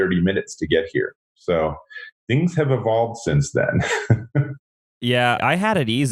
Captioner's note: laughs